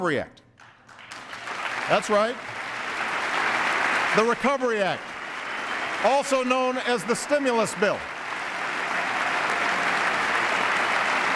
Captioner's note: applause